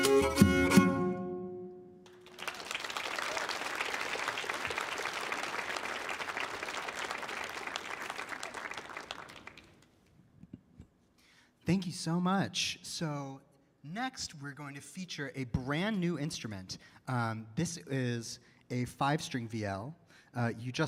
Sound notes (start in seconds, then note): 2.0 audience applauding